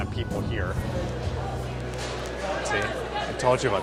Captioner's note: crowd chattering